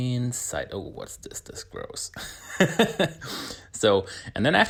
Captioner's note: laughs